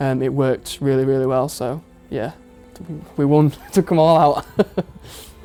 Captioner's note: laughs